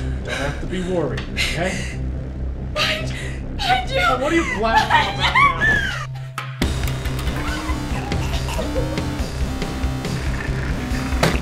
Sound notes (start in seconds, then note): 6.9 choking; 10.2 chair rolling